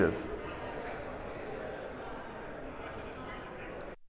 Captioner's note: audience chattering